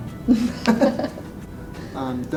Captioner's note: laughter